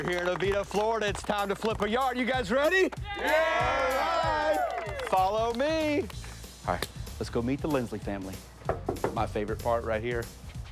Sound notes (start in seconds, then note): 2.9 crowd cheers